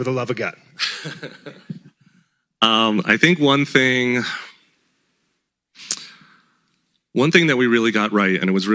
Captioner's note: laughs